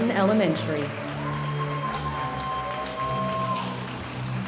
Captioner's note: audience applauding